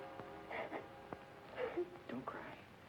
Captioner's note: Mary sobbing